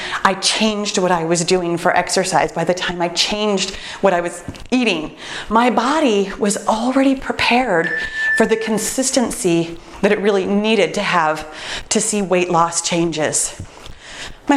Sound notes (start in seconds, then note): 7.8 timer beeps